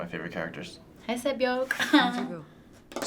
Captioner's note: chuckles